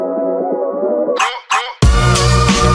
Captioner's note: i-Dog barks